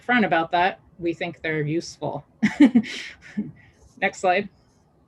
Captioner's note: chuckles